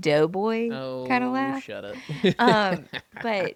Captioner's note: laughs